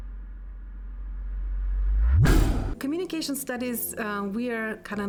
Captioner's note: air whooshing